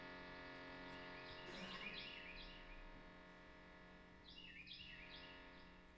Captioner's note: birds chirping